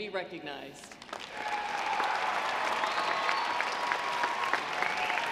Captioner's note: audience applauds